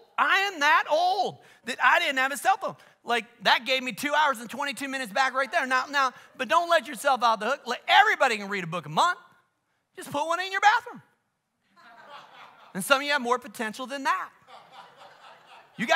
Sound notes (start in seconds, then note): 11.7 congregation laughs